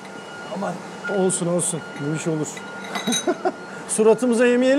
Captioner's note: laughing